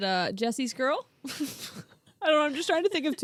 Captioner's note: laughing